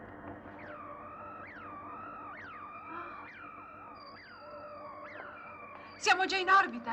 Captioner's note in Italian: urlo